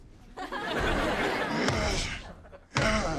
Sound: grunting

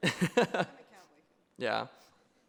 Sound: laughs

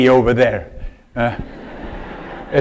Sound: laughter

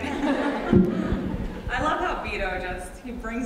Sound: audience laughs

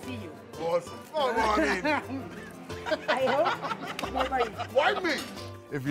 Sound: laughs

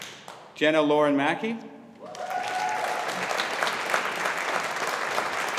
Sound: audience applauding

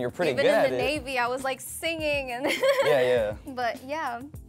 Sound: laughs

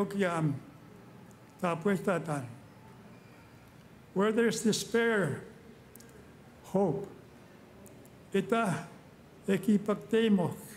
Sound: speaking Indigenous Language

